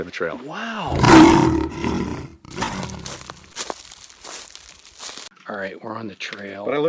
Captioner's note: mountain lion growling